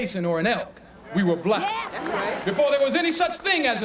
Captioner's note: crowd